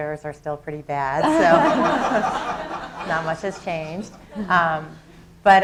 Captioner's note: laughter